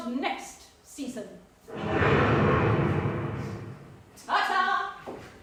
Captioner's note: thunder rumbling